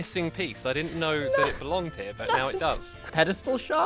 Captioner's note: laugh-crying